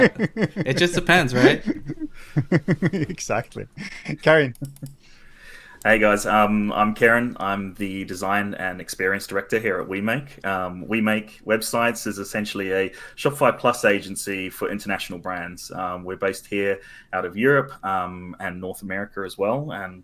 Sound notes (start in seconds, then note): 0.0 laughs softly